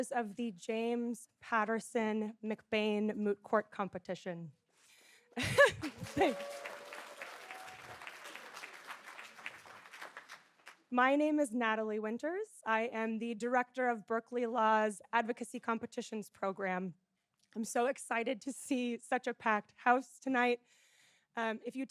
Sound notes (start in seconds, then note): 5.3 laughs; 5.5 audience applauding